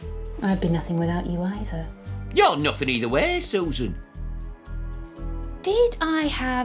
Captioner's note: none